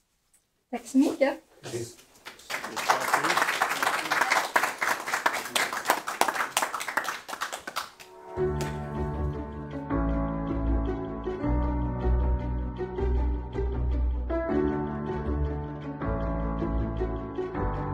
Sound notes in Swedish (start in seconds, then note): 2.2 applåder